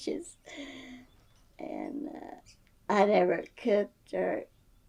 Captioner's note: laughs